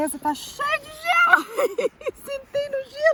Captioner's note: laugh